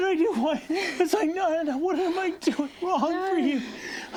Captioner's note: sobbing